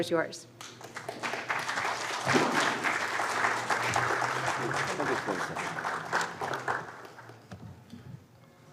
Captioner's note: applause